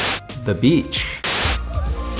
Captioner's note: screen buzzes; light melodic music